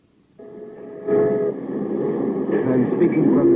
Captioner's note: alarm ringing